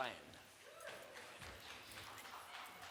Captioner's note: small group applauds